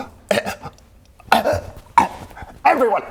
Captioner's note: chokes